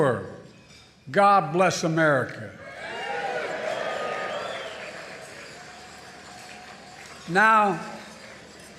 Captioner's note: applause